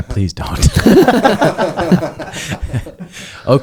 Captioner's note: everyone laughing